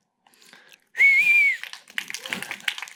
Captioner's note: whistle; applause